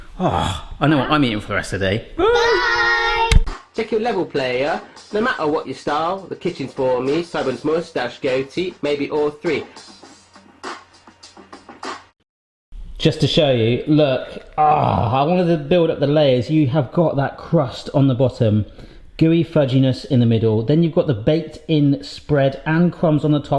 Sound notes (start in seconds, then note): 0.1 groans; 10.0 rap beat; 14.2 groans